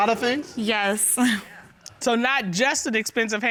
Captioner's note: chuckles